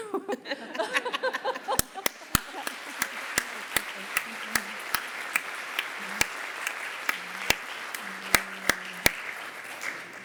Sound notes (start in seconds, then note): 0.0 laughter; 1.6 applause